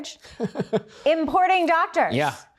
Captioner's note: laughs